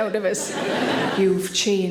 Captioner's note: audience laughing